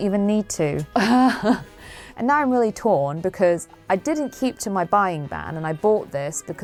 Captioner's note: cry of exasperation